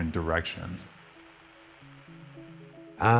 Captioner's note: static